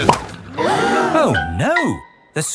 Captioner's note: all gasp